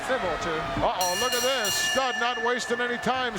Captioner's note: bell ringing